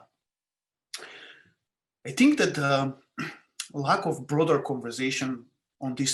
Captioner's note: cough